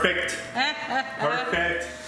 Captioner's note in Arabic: يضحك